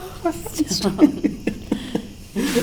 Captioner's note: laughter